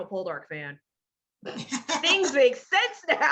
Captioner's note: laughing